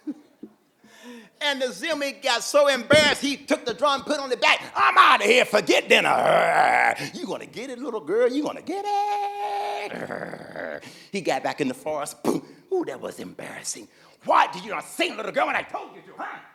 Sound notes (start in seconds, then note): 6.0 Zimwi growling; 9.4 Zimwi growling